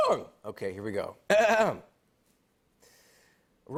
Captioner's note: clears throat